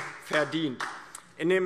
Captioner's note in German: Beifall DIE LINKE